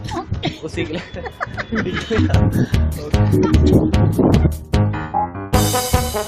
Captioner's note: laughs like hell